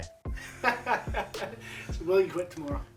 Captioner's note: laughing